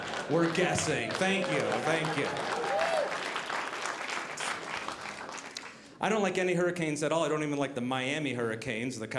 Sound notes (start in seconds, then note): 2.4 audience applauding